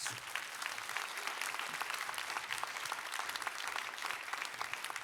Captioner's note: applause